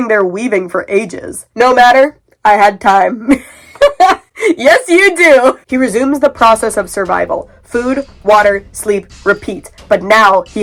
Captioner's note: laughing